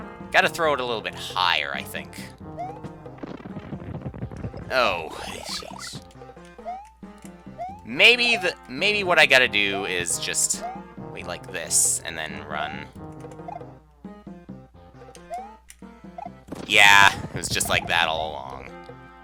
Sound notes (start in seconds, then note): none